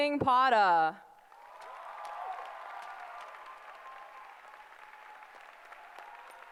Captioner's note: applause